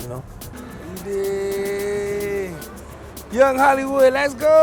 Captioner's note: hums